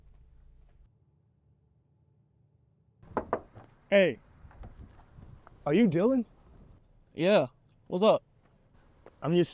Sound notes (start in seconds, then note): 3.0 Harrison Jones knocks